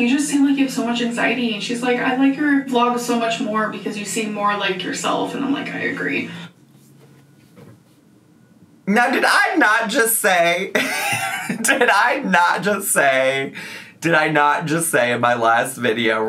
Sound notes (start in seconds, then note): 10.8 laughs